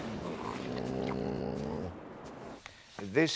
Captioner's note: Alvar groans